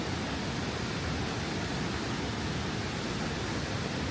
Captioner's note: warning: sound of water